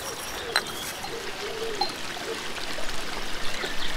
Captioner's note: owl calls, water ripples